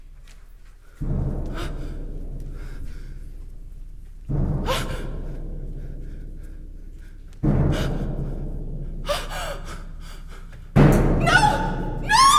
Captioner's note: ground shakes with loud rumble